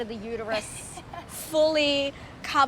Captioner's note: laughs